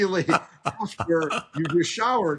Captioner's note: laughs